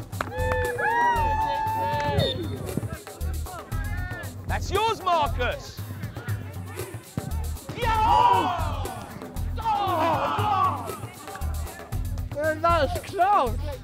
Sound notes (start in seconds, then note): 2.0 referee's whistle sounds; 7.7 crowd